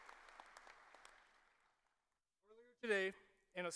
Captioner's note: applause